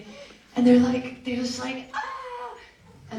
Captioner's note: screams quietly